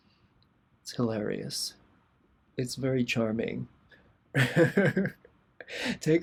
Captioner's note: laughter